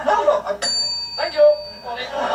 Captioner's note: bell rings